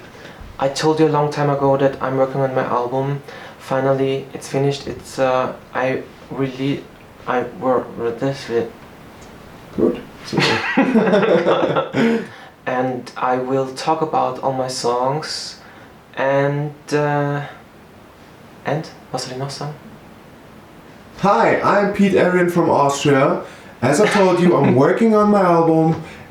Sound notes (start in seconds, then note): 10.3 laughter